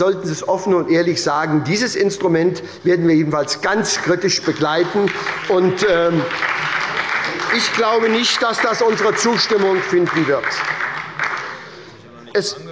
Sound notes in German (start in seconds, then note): 4.5 Beifall bei der SPD